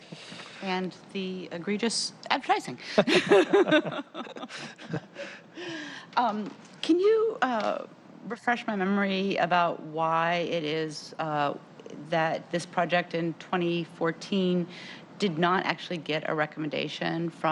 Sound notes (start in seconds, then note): 8.4 laughter